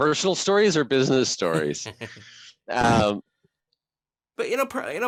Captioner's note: laughing